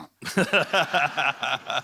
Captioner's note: laughter